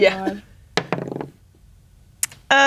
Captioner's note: dice rolling